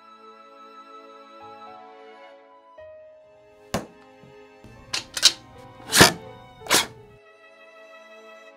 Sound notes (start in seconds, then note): 4.7 sword clatters; 6.5 sword pulls away